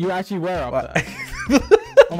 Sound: laughing

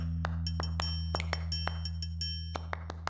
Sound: snap... snap

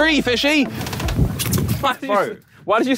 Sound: water splashes

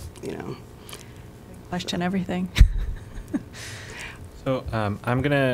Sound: laughter

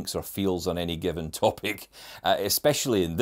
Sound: chuckling

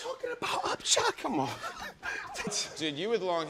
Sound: both laughing

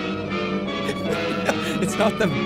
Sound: laughing

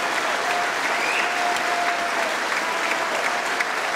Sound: cheering & Applause

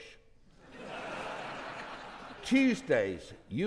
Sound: audience laughing

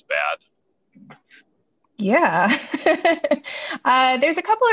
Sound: laughs

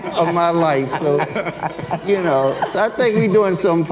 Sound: everyone laughs

